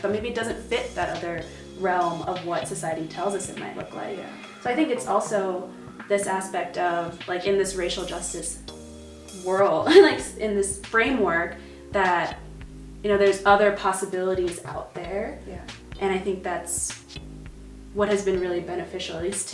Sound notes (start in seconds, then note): 9.8 chuckles